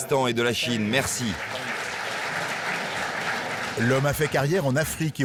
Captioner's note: audience applauding